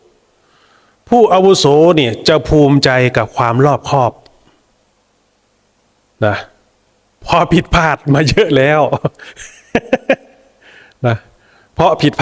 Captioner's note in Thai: เสียงหัวเราะ